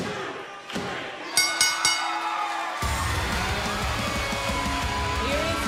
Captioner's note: bell ringing